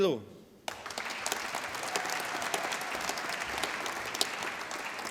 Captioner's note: applause